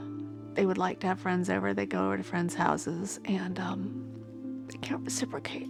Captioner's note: voice breaking